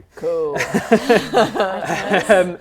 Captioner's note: laughing